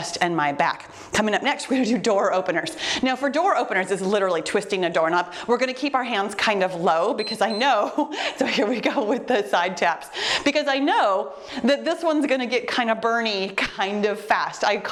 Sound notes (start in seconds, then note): 7.1 timer beeps